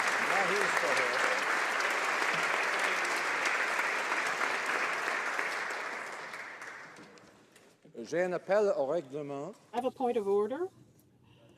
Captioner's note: applause